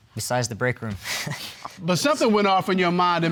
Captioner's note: chuckles